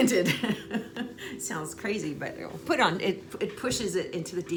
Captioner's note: laughing